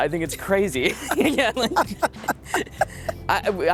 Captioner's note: both laugh